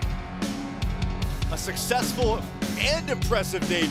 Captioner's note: crowd cheering